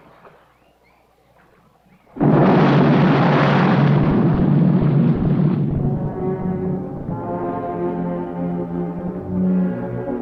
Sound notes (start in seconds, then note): 2.1 bomb exploding; 5.0 ominous music